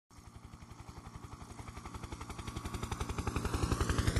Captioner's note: helicopter in flight